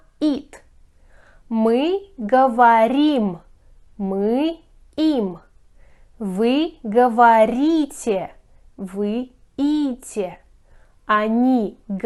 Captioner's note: they are speaking